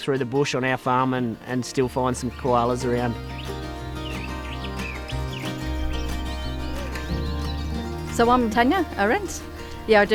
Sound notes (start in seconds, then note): 3.4 birds chirping; 3.4 upbeat music